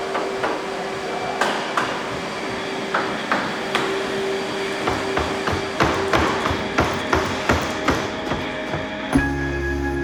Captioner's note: banging